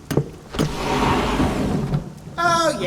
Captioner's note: doors slide open as thunder strikes